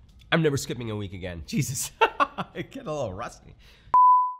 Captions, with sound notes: I'm never skipping a week again. Jesus, (laughs) I get a little rusty.